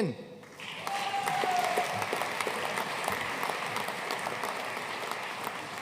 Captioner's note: audience cheering and applauding